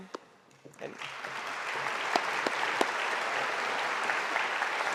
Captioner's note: audience applauding